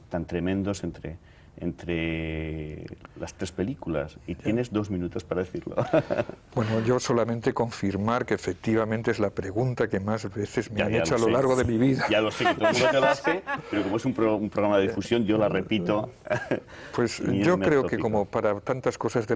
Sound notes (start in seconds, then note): 7.3 ríe